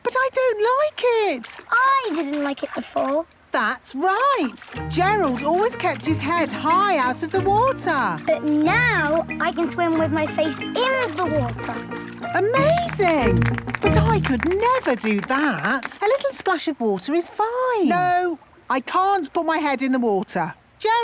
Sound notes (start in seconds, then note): 12.5 clapping